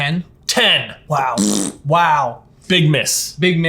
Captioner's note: raspberry blowing